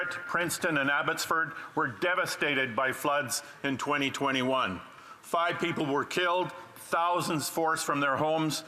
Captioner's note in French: voix de l'interprète